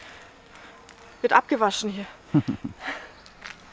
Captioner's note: laughs